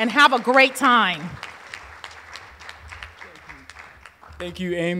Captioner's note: applause